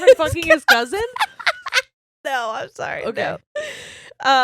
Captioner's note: laughs loudly